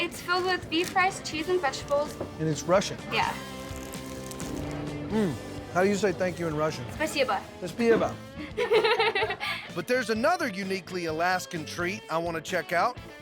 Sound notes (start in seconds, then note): 7.1 speaking russian; 7.8 repeats in russian; 8.4 laughing